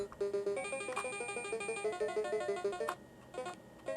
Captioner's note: Dig Dug noises intensify